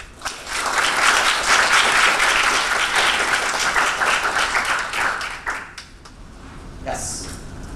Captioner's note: applause